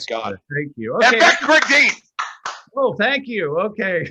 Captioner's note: shouting